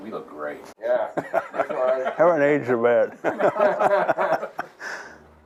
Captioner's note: laughter